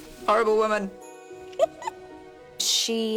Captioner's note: giggles